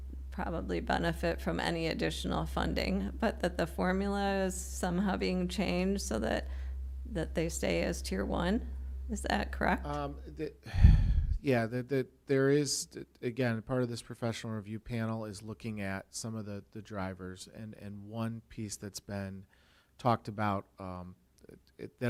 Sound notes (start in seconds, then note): 10.6 sighs